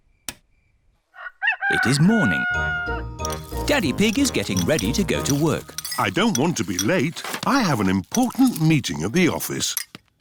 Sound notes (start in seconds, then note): 1.1 rooster crows